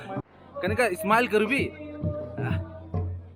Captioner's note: in Nagamese language